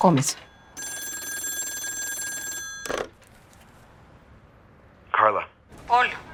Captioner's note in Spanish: Suena el teléfono